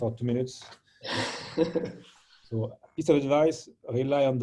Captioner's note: laughter